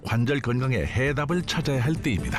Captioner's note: voiceover